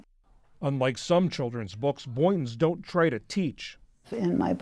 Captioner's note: voice-over